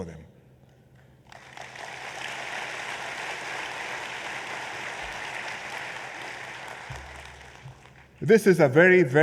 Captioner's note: applause